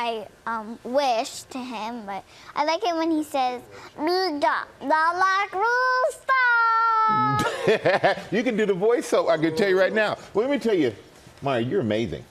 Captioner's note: stitch talking